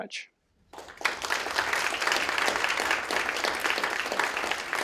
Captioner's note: applause